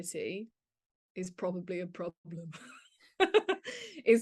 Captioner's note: laughs